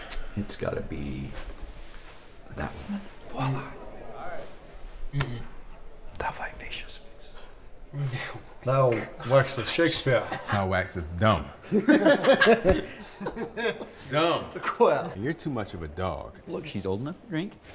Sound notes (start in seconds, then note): 11.7 chuckling